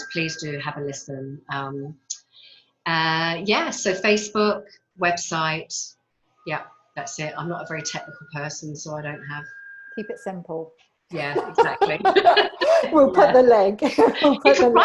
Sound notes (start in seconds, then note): 11.2 women laugh; 14.4 laughs